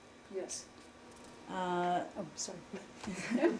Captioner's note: laughter